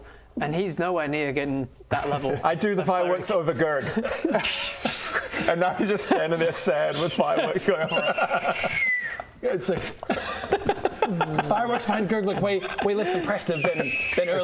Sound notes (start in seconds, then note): 9.5 pff